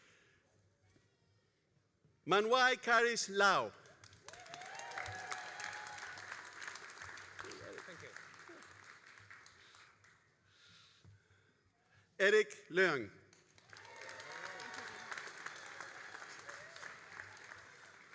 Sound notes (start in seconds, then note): 3.9 all applauding and cheering; 13.4 all applauding and cheering